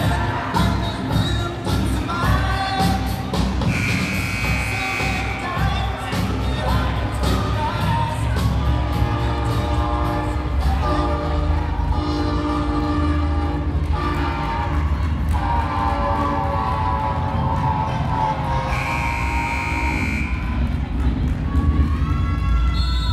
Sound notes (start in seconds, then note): 0.1 intense music; 3.7 buzzer blaring; 18.7 buzzer blaring; 22.9 yelling